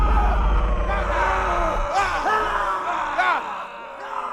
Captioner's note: all shouting